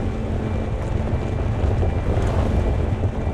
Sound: car driving

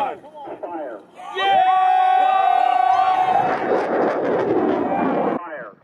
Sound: yelling, screaming, ecstasy!

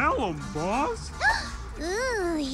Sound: gasp

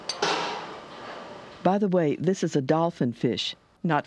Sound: voiceover

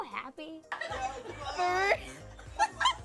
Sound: laughing; upbeat music

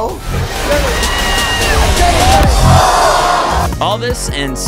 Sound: screams

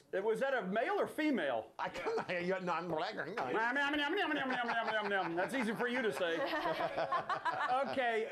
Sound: laughter

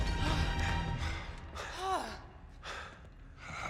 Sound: exhale

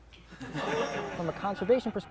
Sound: laughter

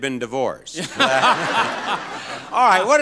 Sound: everyone laughing

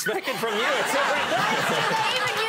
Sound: audience laughing

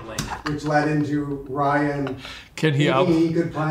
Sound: laughing

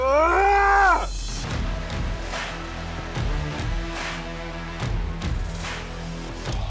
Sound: dramatic music; yelling

